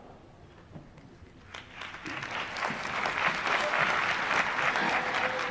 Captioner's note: applause